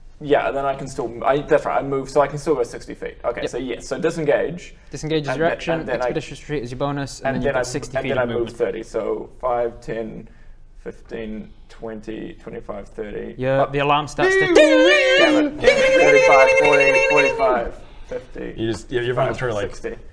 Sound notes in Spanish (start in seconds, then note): 14.4 dingalingalingalingalingalingaling